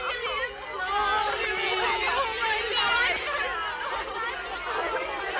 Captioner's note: girls chattering